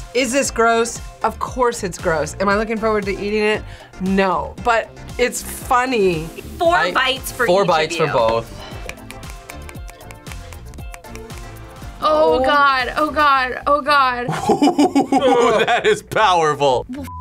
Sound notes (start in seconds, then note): 8.7 herring clicking; 14.3 laughs